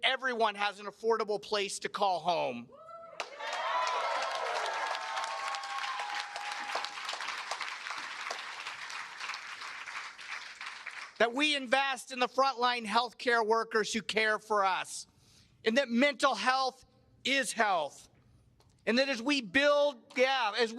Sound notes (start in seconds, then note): 7.3 cheers and applause